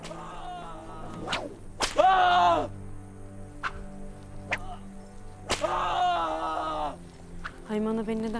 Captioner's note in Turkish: Bağırma sesler; Kırbaç ve bağırma sesleri